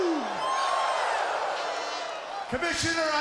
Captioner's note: crowd woos